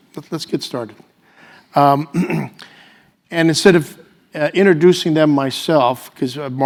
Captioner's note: cough